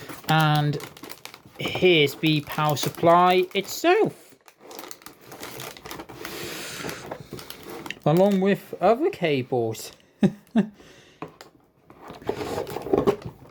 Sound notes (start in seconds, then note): 10.2 chuckles